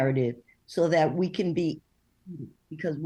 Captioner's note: voice scrambles